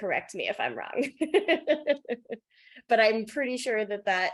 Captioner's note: laughs